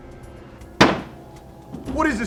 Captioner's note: gun fires